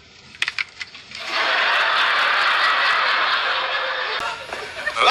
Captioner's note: laughs